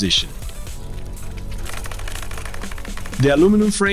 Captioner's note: bicycle Noise